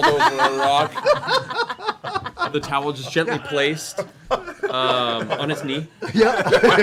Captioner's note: laughter